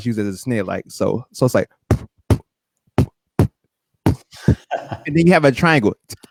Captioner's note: beat-boxing